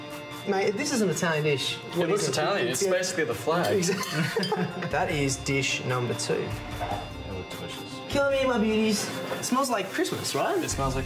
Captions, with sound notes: Mate, if this isn't an Italian dish, what is? It looks Italian. It's basically the flag. Exactly. [laughs] That is dish number two. They look delicious. Come here, my beauties. It smells like Christmas, right? - It smells like Christmas.